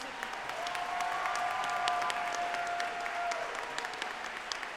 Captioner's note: audience applauding